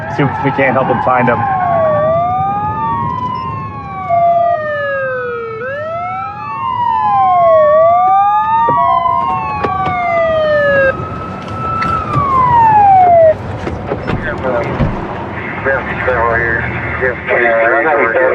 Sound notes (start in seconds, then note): 15.3 radio ctter